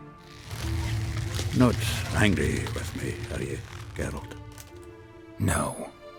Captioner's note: stretching noise